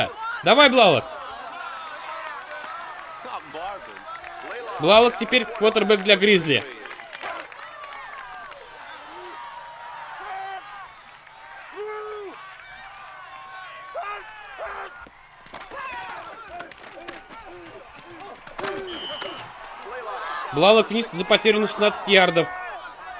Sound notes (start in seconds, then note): 15.6 grunting; 17.4 whistle blows